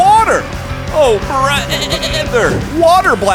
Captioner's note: bleating